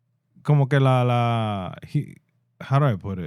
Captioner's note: speaking In Foreign Language